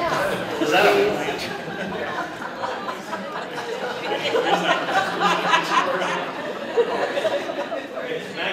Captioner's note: laughter